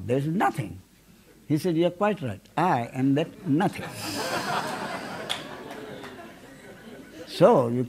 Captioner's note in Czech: smích